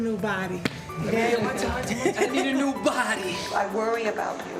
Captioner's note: laughter